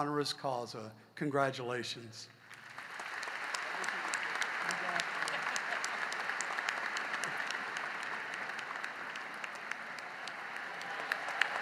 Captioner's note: applause